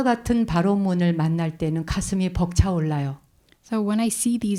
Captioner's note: speaking in Korean